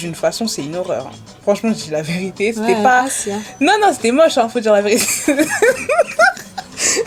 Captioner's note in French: rires